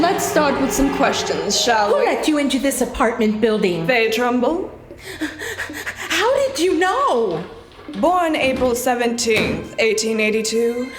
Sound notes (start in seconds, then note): 4.8 gasps